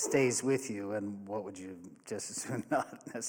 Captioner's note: laughs